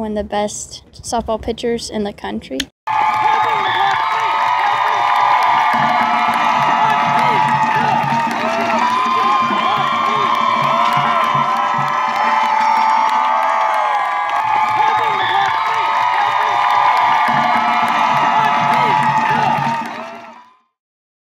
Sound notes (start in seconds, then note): 8.2 crowd cheering